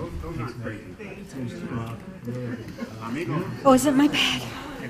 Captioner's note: woman's Voice; overlapping muttering